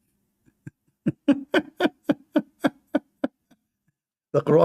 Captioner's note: Ketawa